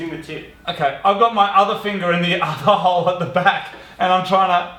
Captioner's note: chuckles